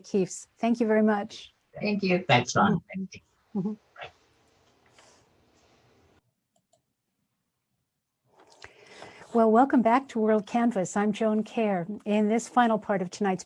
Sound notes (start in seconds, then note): 5.3 silence